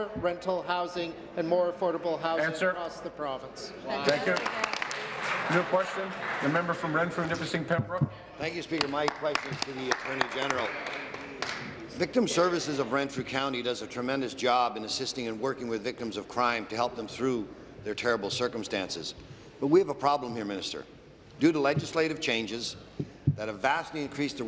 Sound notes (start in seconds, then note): 8.6 applause